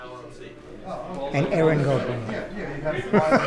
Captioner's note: speaking in foreign language; laughing